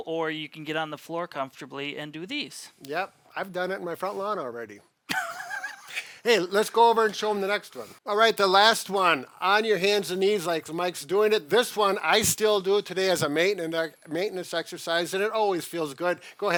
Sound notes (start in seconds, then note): 5.1 laughs